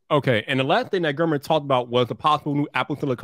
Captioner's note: none